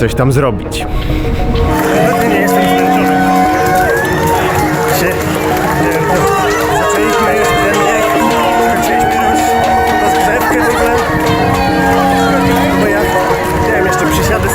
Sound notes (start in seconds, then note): 1.7 applause